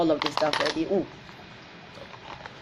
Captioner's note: glass bottles clink